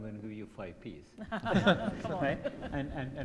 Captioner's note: group laughing